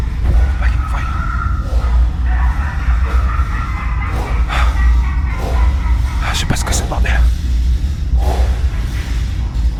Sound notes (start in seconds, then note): 2.1 scary laughter